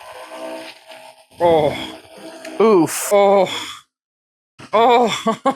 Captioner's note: oof